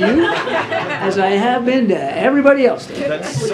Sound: laughter

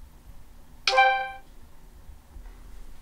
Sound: beep

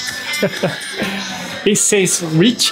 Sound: chuckles

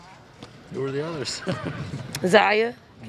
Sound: chuckles

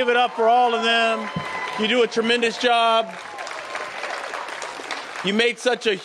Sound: applause

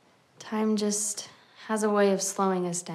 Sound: none

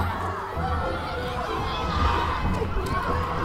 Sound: cheering

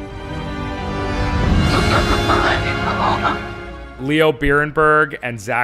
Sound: whispering

